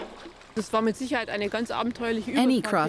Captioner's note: speaking German